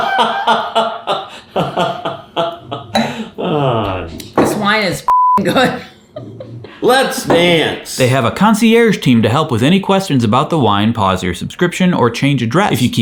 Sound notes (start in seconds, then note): 5.0 beep; 6.1 chuckles